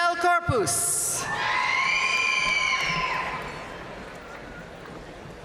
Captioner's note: audience cheering and applauding